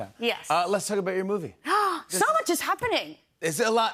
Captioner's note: gasps